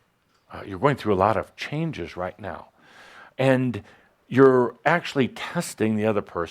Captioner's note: none